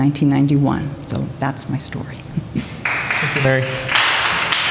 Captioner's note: applause